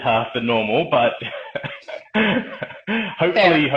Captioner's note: laughing